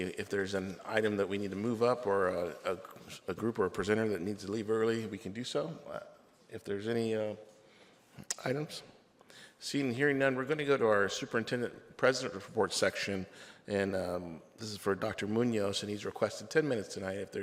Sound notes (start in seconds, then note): none